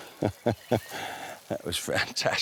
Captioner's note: chuckles